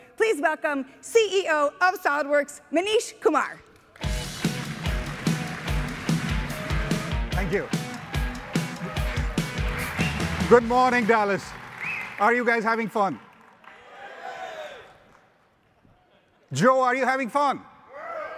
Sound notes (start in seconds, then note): 4.0 upbeat music; 4.4 audience applauding; 13.6 audience cheering